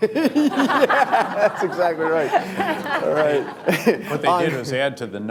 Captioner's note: laughter